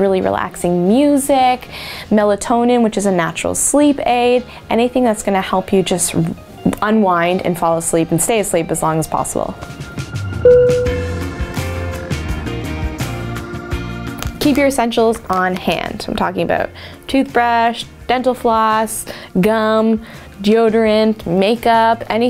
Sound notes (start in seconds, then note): 10.5 dinging; 11.8 upbeat music